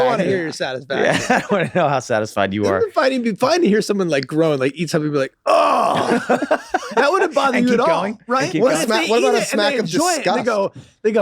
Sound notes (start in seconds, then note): 5.4 groans loudly